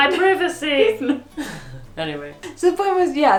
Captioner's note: both laughing